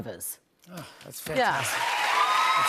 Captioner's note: cheers and applause